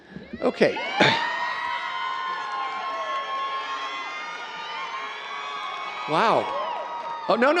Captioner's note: audience cheering